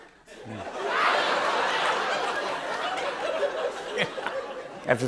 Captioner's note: laughter